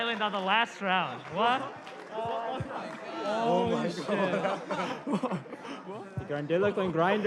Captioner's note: chatter